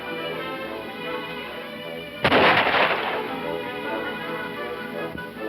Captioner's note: loud gunshot